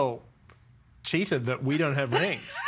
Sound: all laughing

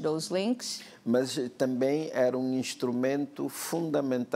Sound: speaking portuguese

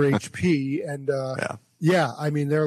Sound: laughs

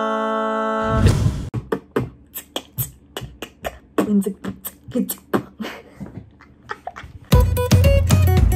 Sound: horribly beatboxing

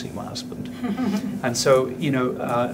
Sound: laughing

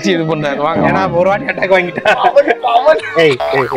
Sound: laughs

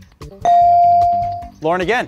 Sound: beep

